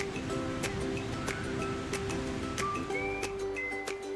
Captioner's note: waves lapping; bright music; bright whistling music